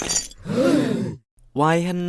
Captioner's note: all gasp